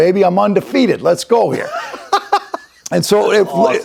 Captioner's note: laughs